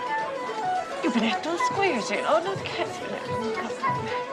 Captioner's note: speaking Gaelic